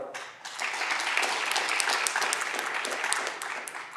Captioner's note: audience clapping